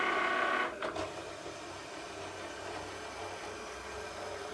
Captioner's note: Cricut cuts